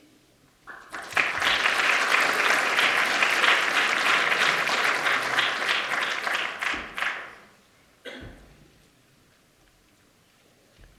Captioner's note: applause